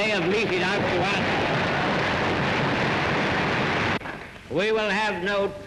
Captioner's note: audience claps